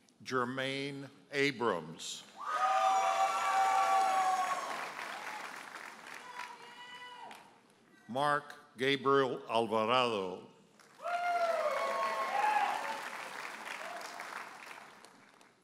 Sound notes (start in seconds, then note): 2.4 audience cheers and applauds; 7.1 audience member hollers; 10.8 audience cheers and applauds